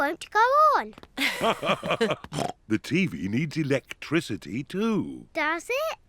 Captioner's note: both laugh